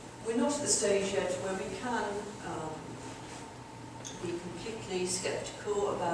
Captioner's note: none